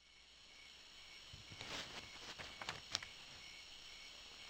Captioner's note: crickets chirping